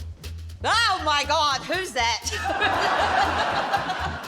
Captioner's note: laughs